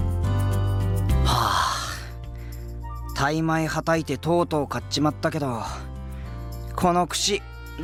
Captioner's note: sigh